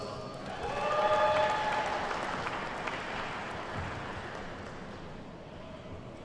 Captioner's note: attendees whooping and clapping